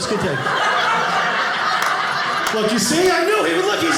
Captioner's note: audience laughing